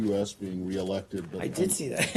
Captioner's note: laughter